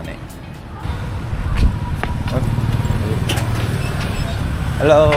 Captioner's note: tuk-tuk arrives